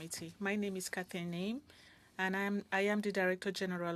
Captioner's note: speaking French